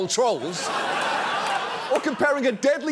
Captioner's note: studio audience laughs